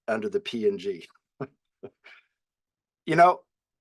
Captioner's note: laughs